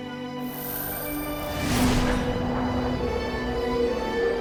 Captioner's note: electronic whirring